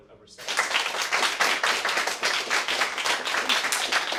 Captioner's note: applause